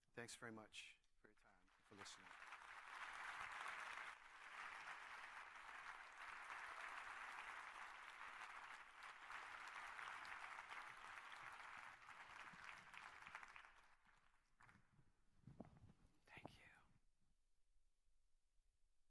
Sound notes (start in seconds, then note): 2.4 applause